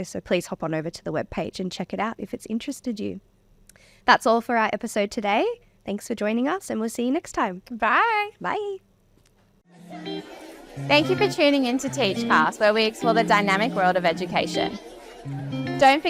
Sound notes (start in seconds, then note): 9.7 crowd faintly chatting; 9.7 upbeat music